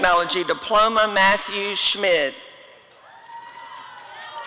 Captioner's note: audience cheering